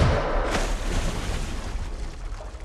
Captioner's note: gunshot; water splashing